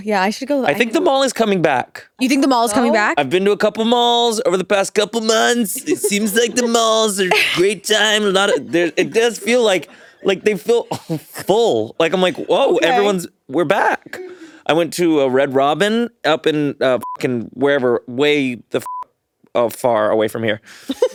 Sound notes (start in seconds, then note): 18.8 beep